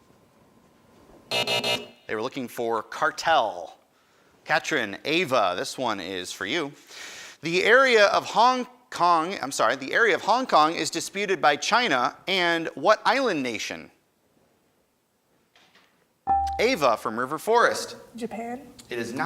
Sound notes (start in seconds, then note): 1.3 end time buzzer rings; 15.7 buzzer dings